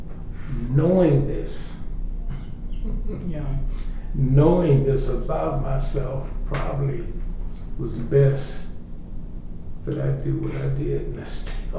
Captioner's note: laughter